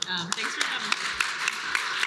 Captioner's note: applause